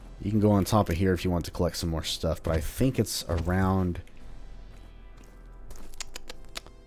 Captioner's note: moar thinking sounds